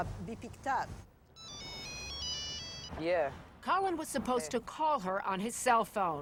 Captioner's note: phone rings